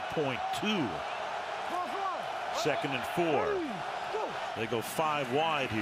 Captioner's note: cheering